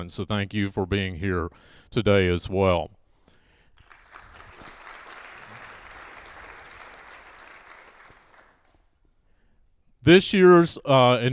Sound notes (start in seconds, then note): 3.7 applause